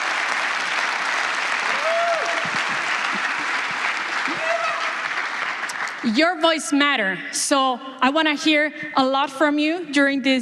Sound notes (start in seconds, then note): 3.9 applause